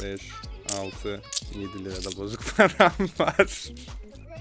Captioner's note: laughs